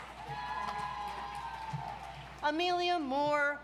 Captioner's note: audience cheers